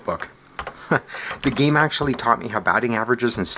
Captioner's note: chuckles